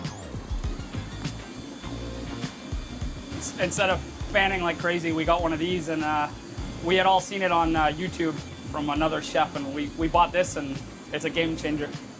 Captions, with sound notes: (fan whirs) Instead of fanning like crazy, we got one of these and we had all seen it on YouTube from another chef and we bought this and it's a game changer.